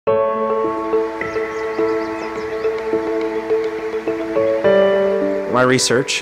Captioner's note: soft piano music; birds chirping</i>